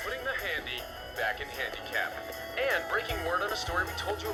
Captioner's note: radio